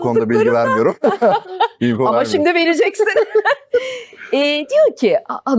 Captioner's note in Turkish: kahkaha